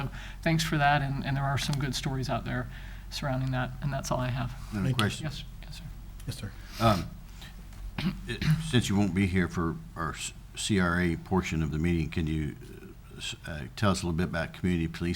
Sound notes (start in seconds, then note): 8.0 clears throat